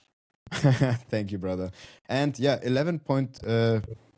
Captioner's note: chuckles